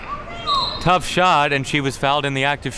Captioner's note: whistle blows